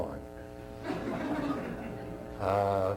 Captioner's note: laughter